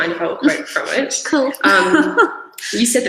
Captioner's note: laughs